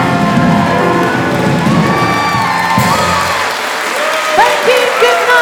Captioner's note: applause and cheering